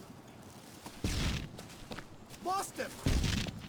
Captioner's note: gunfire